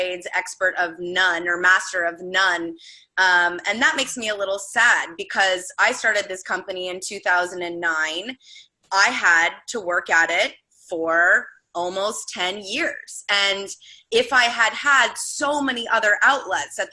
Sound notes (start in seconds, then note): none